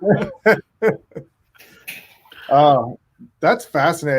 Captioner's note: chuckles; laughs